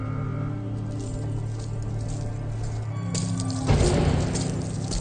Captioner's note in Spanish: Tintineo de las cadenas